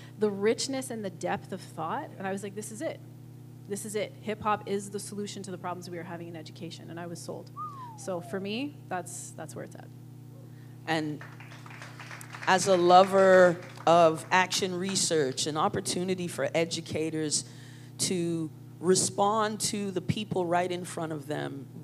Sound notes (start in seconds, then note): 7.5 whistles; 11.1 applause